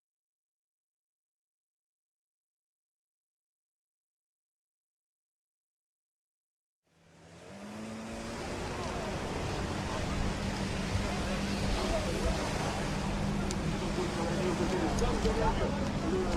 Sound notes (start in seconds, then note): 11.3 boat vrooming